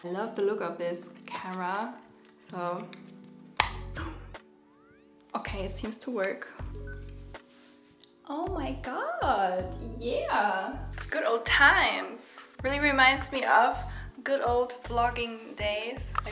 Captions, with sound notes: I love the look of this camera, so. (gasps) Okay, it seems to work. (camera beeping) Oh my God. Yeah. Good old times. Really reminds me of good old vlogging days.